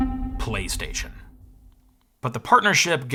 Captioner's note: low-pitched synth beeping